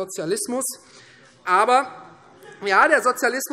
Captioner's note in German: Heiterkeit Freie Demokraten